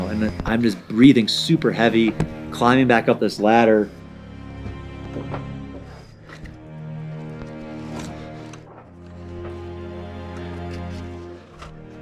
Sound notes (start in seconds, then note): 5.0 thumping; 5.1 scraping